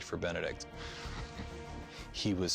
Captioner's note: chuckles